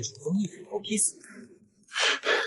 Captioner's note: hiss!